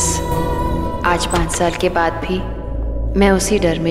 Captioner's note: Door opens